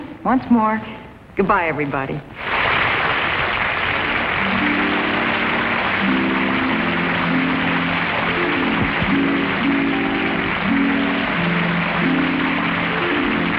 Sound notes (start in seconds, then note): 2.6 audience clapping; 4.8 majestic harp music